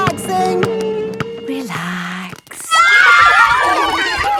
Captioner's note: kids screaming; laughter